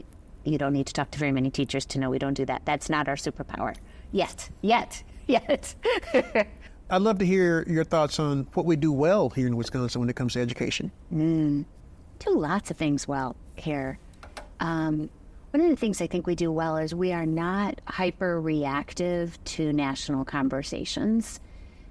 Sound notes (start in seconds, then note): 5.4 laughs